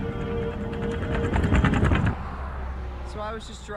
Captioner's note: car rattles